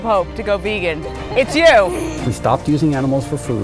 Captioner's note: laughs